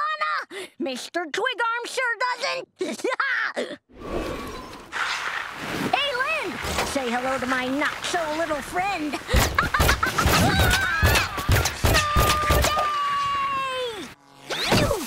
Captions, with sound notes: Mr. Twig Arms sure doesn't! [laughing] Hey, Lynn! Say hello to my not-so-little friend. [laughing] [screaming] Snow da-a-a-y!